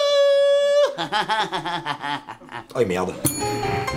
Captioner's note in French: il ricane